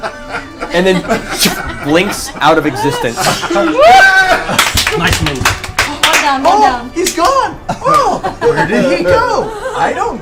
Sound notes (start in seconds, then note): 0.0 all laugh; 4.4 all cheer